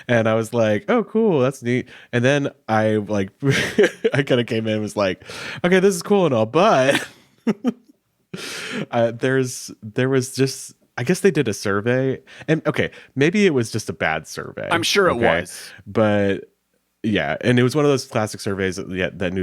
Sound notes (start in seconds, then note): 7.4 chuckles